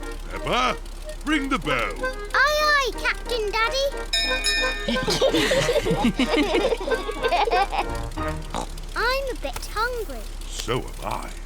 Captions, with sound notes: Peppa, ring the bell. -Aye-aye, Captain Daddy. -(BELL RINGS) (ALL LAUGH) -(OINKS) I'm a bit hungry -So am I.